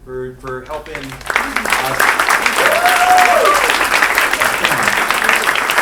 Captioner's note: clapping; cheering